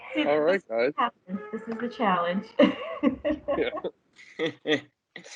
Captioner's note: laughter